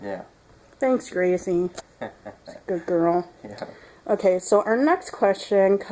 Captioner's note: Howler chuckles